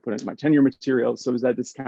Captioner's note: hands clapping